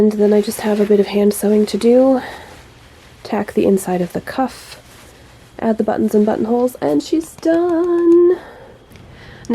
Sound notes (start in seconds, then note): 7.3 claps softly